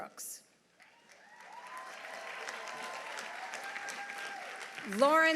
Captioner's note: audience applauding; audience cheering